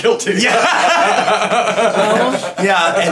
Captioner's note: laughing